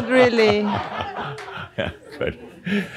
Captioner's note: laughter; continues laughing